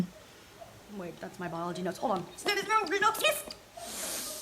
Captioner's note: reversing noises